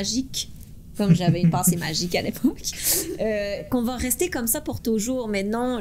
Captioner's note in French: rires